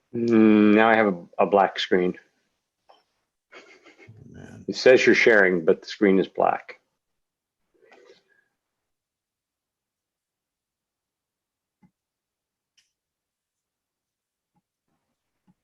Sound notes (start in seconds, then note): 3.5 laughs